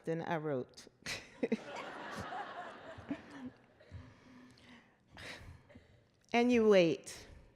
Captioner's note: laughter